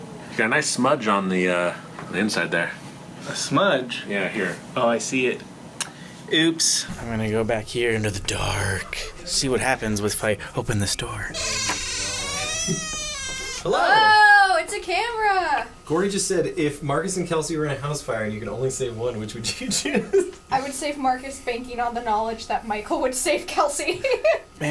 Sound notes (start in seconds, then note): 11.3 squeaky door opening; 19.6 laughing; 23.7 laughs